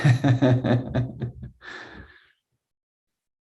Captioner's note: laughing